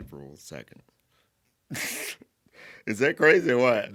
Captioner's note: laughing